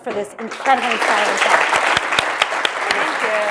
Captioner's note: audience applauds